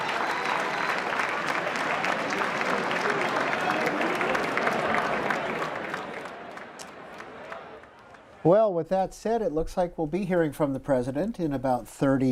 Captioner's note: applause